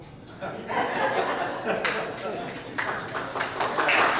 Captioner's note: audience laughs; audience applauds